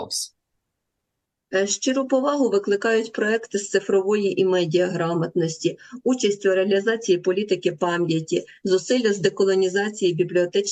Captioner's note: foreign language